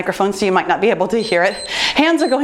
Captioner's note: timer beeps